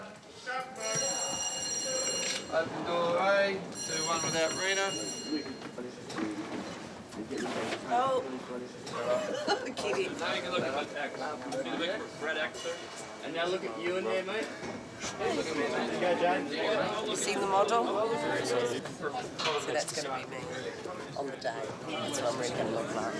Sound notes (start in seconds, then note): 0.8 bell rings; 9.8 laughing